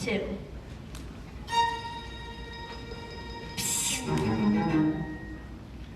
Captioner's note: song ends; spoken quietly